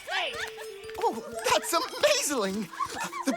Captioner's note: Nom continues to laugh gleefully at funny name as they walk up the ploop deck; Nom's giggling starting to wind down; Nom continues to laugh gleefully at funny name as they walk up the ploop deck